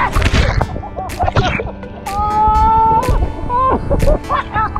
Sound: laughter

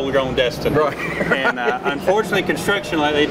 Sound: laughing

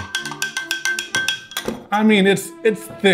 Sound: fork clinking; glass shuffling

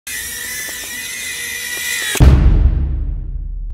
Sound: drone buzzes

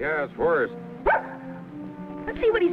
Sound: dog barks

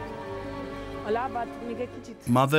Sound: speaking in foreign language

